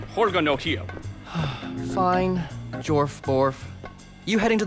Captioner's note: sighs